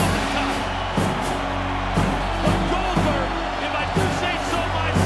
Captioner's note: applause